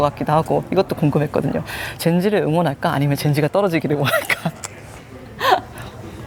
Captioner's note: laughs